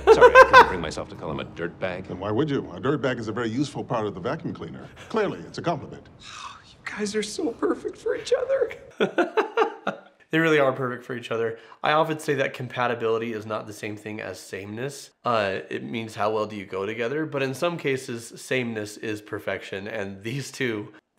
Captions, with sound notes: Sorry, I couldn't bring myself to call him a dirtbag. - And why would you? A dirtbag is a very useful part of the vacuum cleaner. Clearly, it's a compliment. - Oh, you guys are so perfect for each other. (laughs) - They really are perfect for each other. I often say that compatibility is not the same thing as sameness. It means how well do you go together, but in some cases, sameness is perfection, and these two...